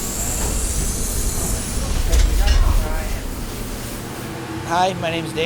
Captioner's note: machinery whirring